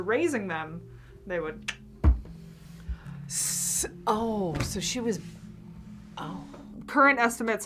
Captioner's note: clicks tongue